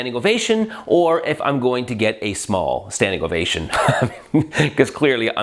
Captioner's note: laughs